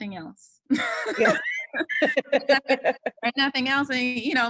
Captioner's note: laughter